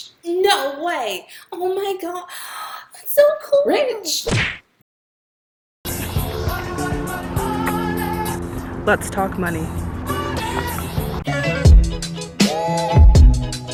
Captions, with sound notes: no way oh my god (gasp) that's so cool Rich! let's talk money